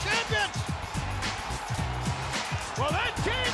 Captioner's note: crowd cheering